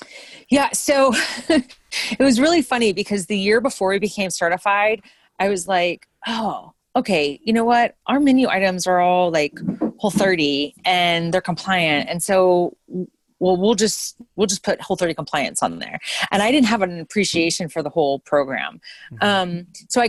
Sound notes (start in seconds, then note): 1.4 chuckles